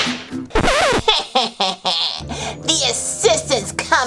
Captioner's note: evil laugh